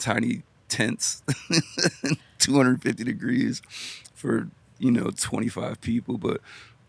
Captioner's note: laughs